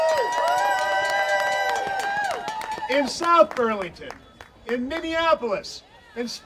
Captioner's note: audience cheering